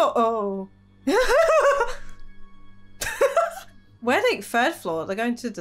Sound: laughing

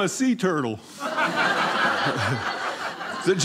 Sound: audience laughing

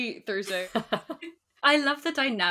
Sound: laughs

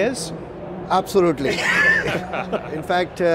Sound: laughs

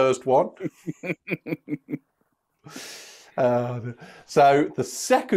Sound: laughter

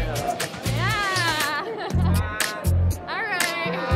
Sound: laughs

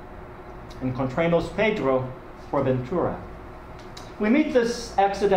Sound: speaking a foreign language

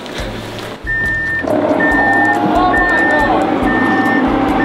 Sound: beeping sound

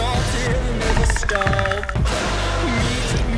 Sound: predator noises

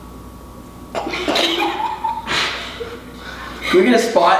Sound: laughs

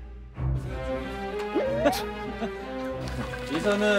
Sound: scoffing smile

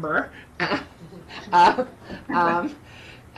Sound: chuckles

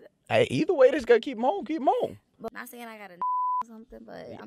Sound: beep

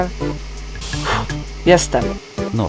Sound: le sigh of exhaution

